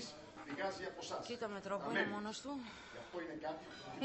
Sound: whispering

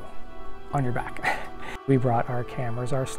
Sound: laughing

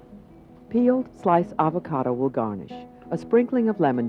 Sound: voiceover

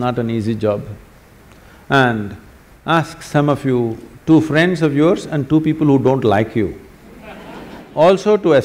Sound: laughter

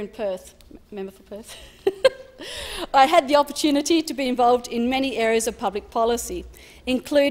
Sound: laughs

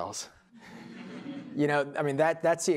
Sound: laughter

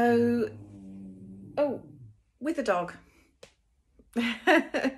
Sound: grumble in background

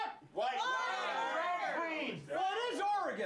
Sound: audience shouts answers

